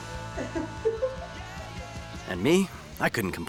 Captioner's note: Lynn laughs